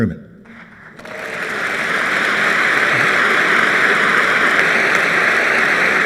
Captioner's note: applause